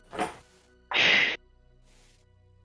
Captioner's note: inhale